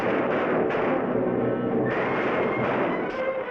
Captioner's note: gunshots bang